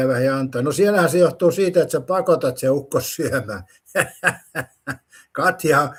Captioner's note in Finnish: naurua